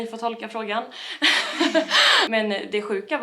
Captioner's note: laughing jokingly